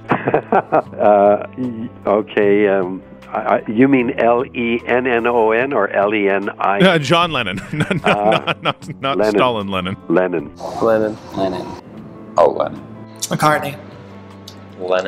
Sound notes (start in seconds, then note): 7.4 laughs